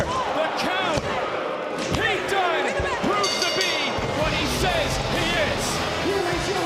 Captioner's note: bell rings